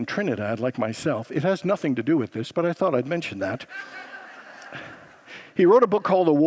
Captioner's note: congregants laugh